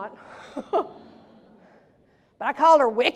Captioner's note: laughs